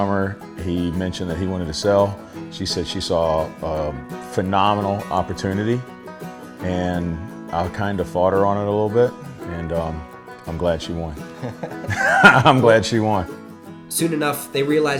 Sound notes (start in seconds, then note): 11.3 laughter